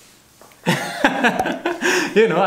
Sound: laughter

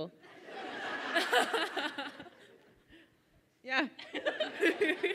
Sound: audience laughs

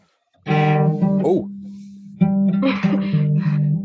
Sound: exclamation of surprise and mild anguish

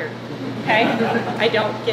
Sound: group laughing

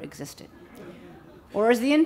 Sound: audience laughing

